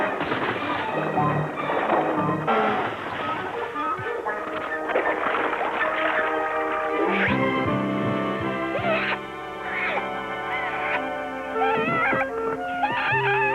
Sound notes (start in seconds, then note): 0.1 lion roaring; 6.6 Rubik screaming